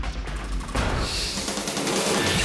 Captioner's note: graphics whooshing; upbeat music